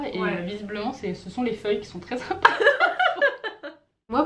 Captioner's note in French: rires